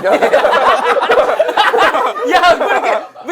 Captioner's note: laughing